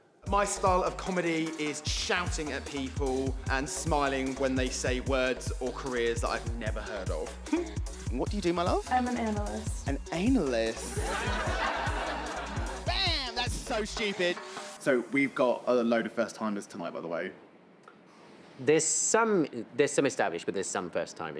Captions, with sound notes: My style of comedy is shouting at people and smiling when they say words or careers that I've never heard of. -What do you do, my love? -I■m an analyst. An anal-ist? [laughter] Bam! That's so stupid. So we've got a load of first timers tonight, by the way. There's some... There's some established, but there's some first timers.